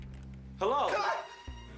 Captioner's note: screams